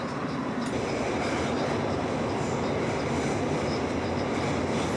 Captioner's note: subway whirring